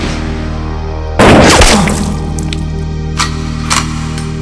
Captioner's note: gun fires; slow synth music